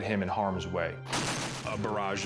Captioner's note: gunfire